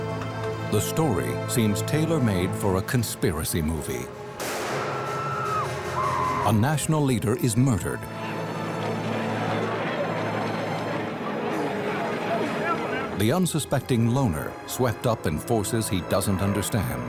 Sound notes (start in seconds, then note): 4.4 shot; 4.8 screams